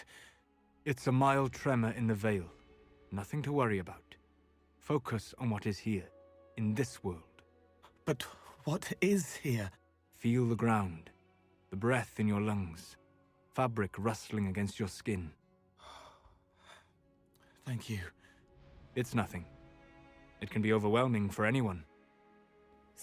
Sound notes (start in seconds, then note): 15.8 breathes